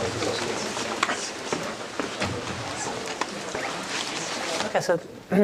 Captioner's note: indistinct conversation